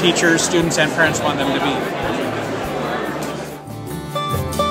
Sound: crowd murmur fades

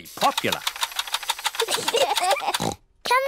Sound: both laugh

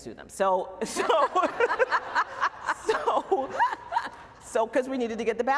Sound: laughter

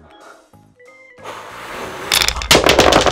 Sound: tower breaking

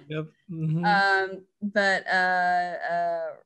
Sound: woman laughs

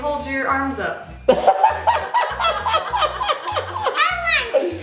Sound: all laughing

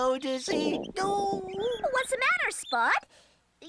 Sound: groans

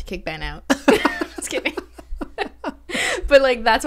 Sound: laughs

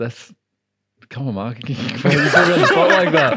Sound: laughing

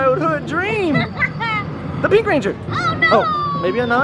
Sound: laughs

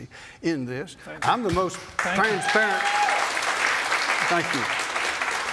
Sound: applause

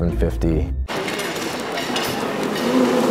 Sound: busy lunchroom chatter

